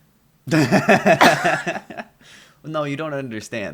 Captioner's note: laughter